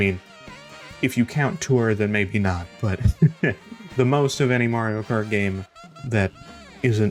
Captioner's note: laughs